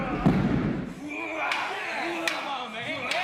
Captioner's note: grunting